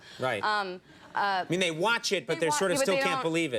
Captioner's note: audience laughter